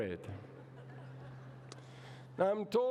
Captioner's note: laughter